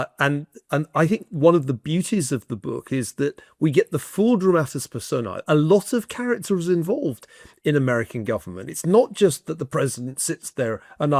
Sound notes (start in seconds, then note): none